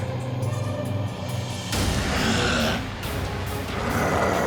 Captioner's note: child growls